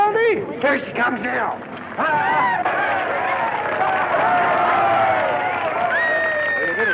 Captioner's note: cheering